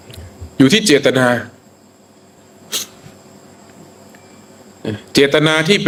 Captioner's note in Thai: เสียงสูดหายใจ